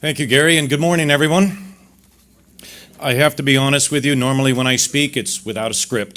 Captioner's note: none